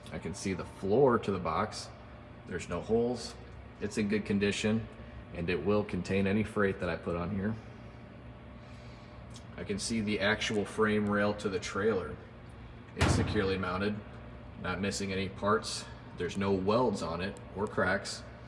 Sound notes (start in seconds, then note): 13.0 thudding sound